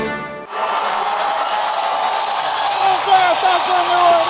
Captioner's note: applause